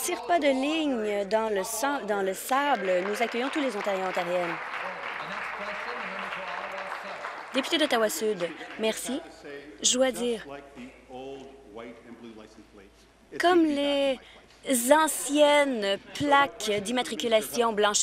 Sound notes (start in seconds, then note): 7.4 applause